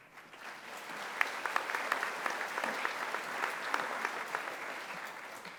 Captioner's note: audience applauding